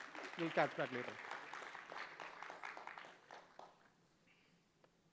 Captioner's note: applause